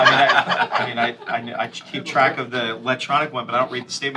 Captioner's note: laughter